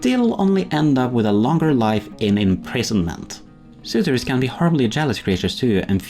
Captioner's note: none